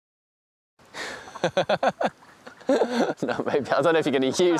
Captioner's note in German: lacht